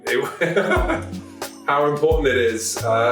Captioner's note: man laughs